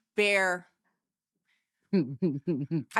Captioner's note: laughing